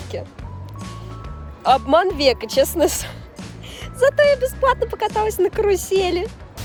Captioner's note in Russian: смех